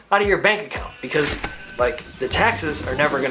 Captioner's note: cash register rings